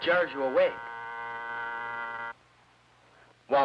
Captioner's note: alarm clock buzzing